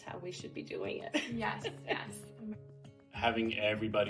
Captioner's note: chuckles